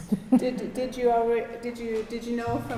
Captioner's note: laughter